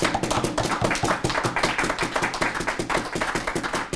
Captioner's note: applause